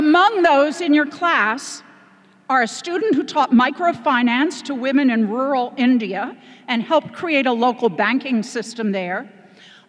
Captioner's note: none